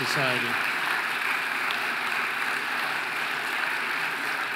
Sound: audience applauding

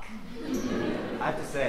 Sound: audience laughing

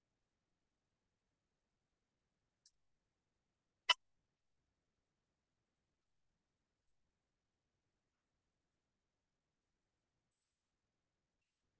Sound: silence

